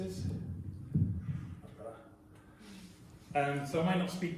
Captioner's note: adjusts microphone